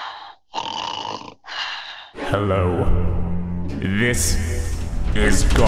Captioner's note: snoring